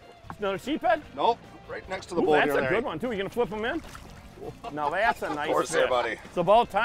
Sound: laughing

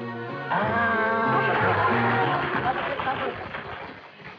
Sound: applauding

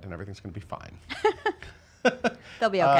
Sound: laughing

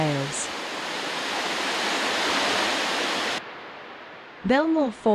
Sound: water falls

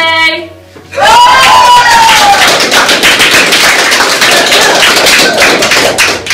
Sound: laughing and cheering

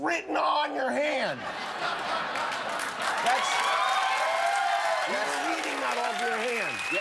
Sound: cheers and applause

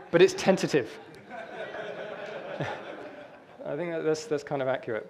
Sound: audience laughter

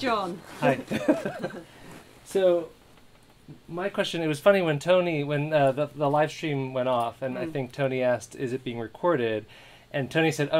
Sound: laughter

